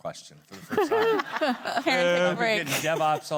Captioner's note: group laughing